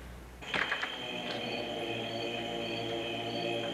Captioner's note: creaky door